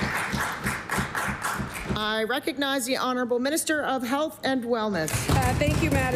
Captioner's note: applause